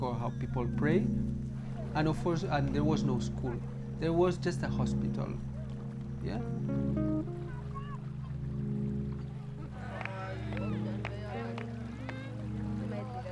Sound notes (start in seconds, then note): 8.0 indistinct chatter